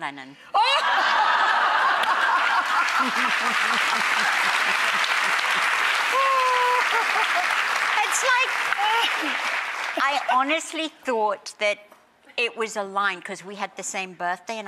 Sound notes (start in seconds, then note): 0.2 audience, Sharon, and Rachael laugh; 2.0 audience cheers